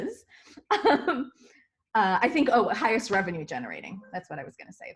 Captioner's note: chuckles